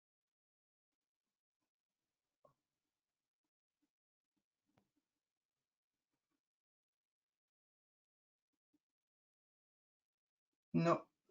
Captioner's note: silence